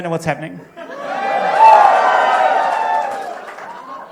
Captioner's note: cheering